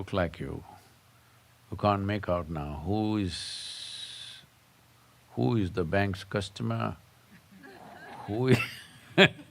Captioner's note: laughs; laughter